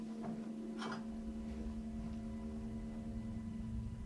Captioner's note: glass clinks